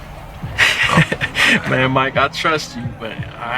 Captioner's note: laughing